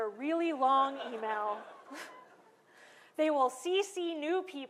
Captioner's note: laughter